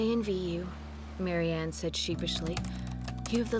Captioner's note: typing